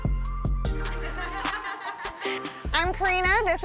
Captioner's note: light music; laughter